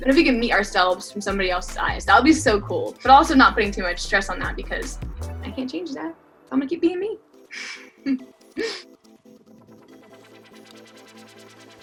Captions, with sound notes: And if we can meet ourselves from somebody else's eyes that would be so cool, but also not putting too much stress on that because I can't change that. I'm gonna keep being me. (laughs) (upbeat music)